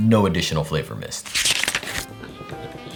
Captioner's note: page turning